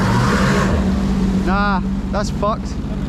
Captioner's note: jet-ski engine revving